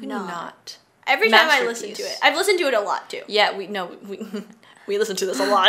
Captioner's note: chuckles; laughs